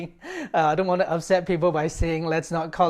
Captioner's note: laughter